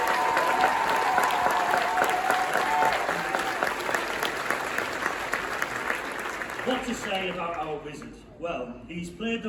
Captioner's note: cheering & applause